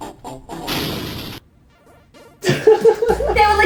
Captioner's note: loud punch sound effect, sudden cut, giggles